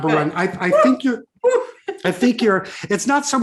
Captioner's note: sighs